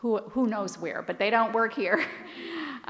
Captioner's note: laughs